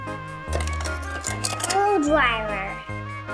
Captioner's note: toys rumbling